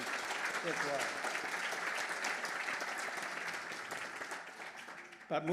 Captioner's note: applause